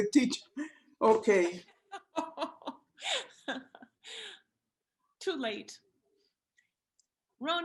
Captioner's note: laughter